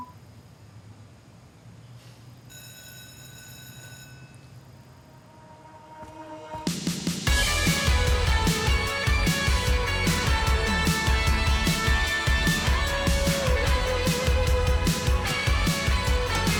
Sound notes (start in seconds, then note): 2.5 bell rings; 6.5 bright pop music